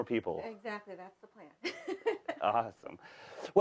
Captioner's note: laughs